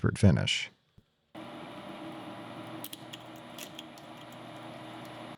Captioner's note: machinery whirring